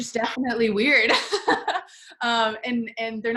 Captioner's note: laughs